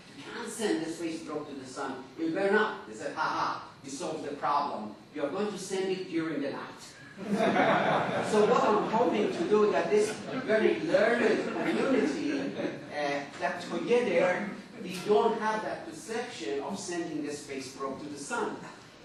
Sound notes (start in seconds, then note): 7.1 laughter